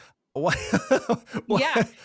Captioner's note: laughs